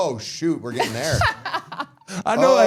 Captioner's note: all laughing